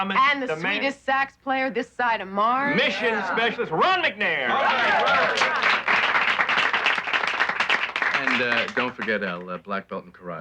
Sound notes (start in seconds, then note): 4.6 applauding